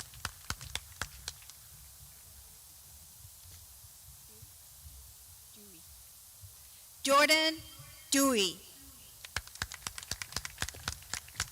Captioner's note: clapping